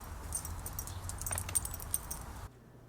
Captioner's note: dog tags jingle, city noise